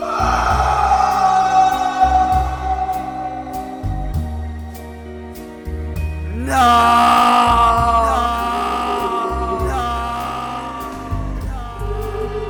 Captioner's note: voice in background shrieks